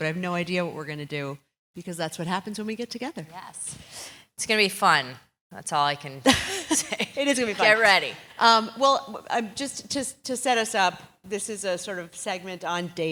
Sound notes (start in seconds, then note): 6.3 laugh